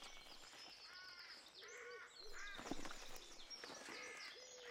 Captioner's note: birds chirping